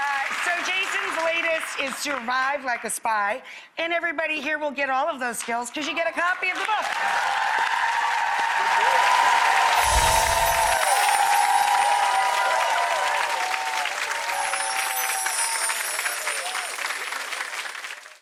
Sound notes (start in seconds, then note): 0.0 audience applause; 6.9 audience applause